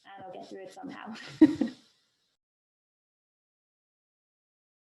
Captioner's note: chuckles